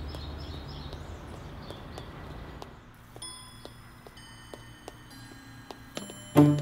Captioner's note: Footsteps